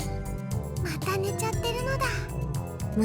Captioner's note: whisper